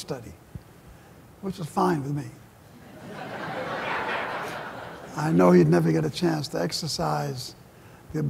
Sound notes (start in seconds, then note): 2.8 laughter